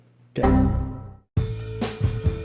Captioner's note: error noise